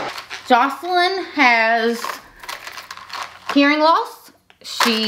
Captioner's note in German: Perlen klappern